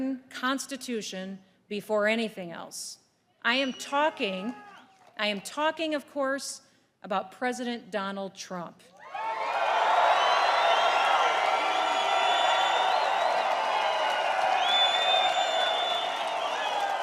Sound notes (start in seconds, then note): 9.0 applause